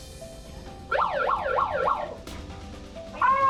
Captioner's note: siren sounds